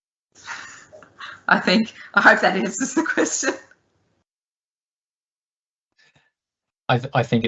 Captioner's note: laughing